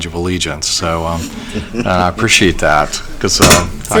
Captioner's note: laughter